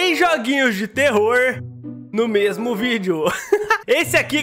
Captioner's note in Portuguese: risos